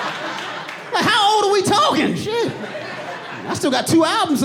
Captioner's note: audience laughing